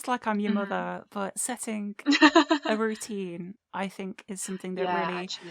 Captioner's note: laughs